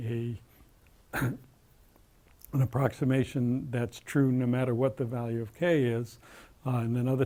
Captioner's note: cough